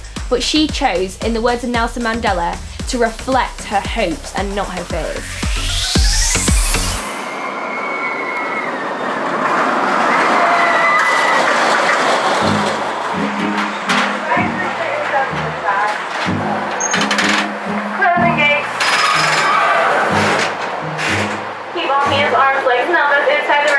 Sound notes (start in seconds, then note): 7.3 screaming; 13.3 suspenseful music